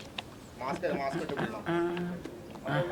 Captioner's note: indistinct chatter